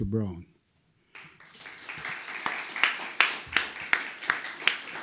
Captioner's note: applause